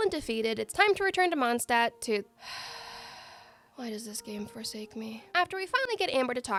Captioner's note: sigh